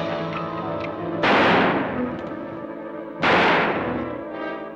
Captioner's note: dramatic orchestral music; gun fires